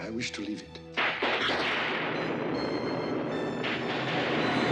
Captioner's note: thunder crashes